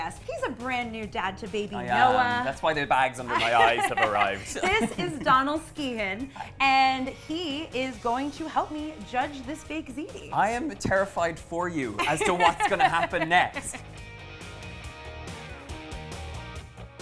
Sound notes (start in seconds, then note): 3.3 laughs; 12.0 laughs; 13.8 upbeat rock music